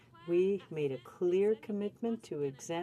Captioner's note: speaking french